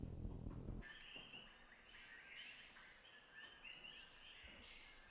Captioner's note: birds chirping